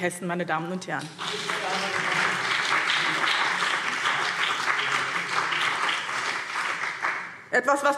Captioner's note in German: Beifall BÜNDNIS 90/DIE GRÜNEN